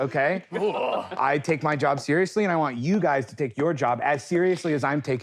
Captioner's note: grunts in pain